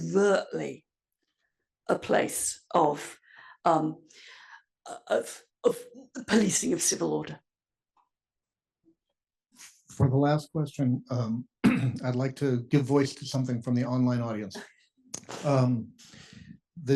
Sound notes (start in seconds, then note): 11.6 cough